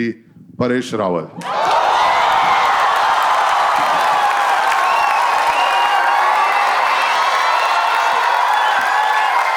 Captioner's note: crowd applauding